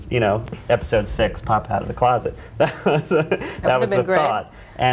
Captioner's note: laughing